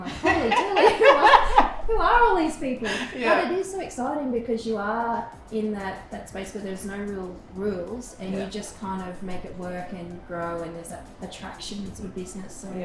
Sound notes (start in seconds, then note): 0.0 both laughing